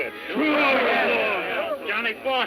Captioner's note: men shouting